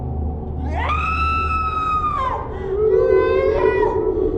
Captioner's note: woman screaming